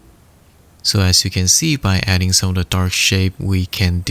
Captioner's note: speaks faintly